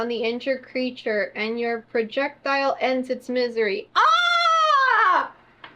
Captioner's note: screams